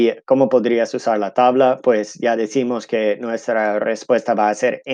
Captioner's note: speaking in Spanish